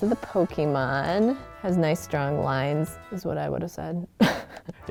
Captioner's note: laughs